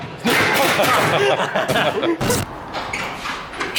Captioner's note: laughs